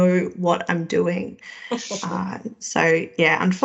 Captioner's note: laughing